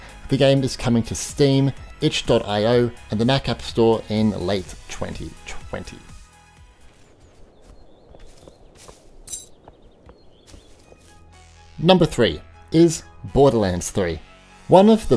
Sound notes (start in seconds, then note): 6.8 footsteps pattering; 9.2 light clinking